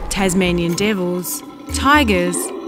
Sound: growling

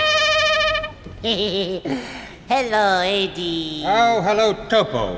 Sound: chuckles

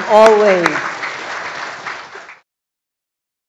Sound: applause

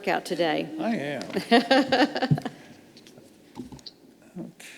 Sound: laughs

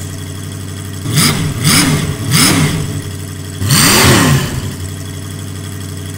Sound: engine revs

